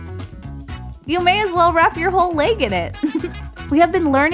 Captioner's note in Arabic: ضحكة مكتومة